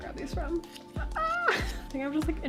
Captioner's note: squeal